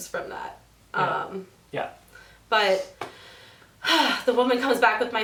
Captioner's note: sighs